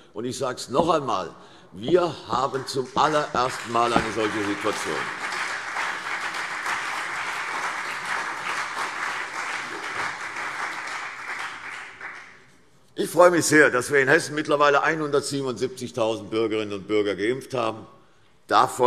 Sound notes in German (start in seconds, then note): 4.9 Beifall CDU und BÜNDNIS 90/DIE GRÜNEN